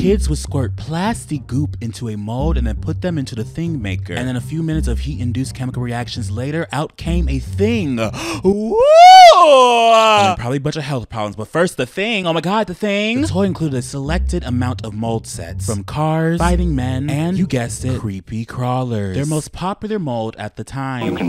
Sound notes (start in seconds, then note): 8.0 gasps